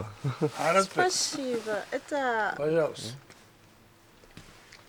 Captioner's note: in Russian